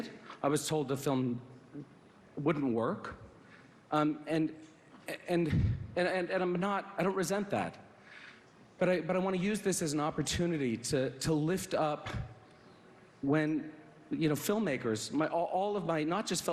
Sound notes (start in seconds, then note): none